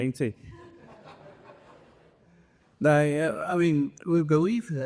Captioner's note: laughter